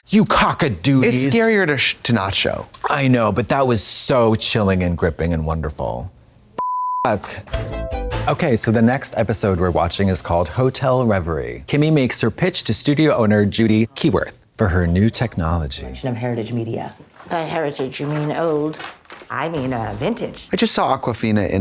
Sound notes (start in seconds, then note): 6.6 beep; 7.5 synth bop